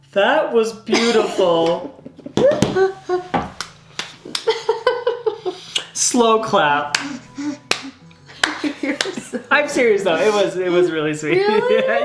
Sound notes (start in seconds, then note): 0.9 laughing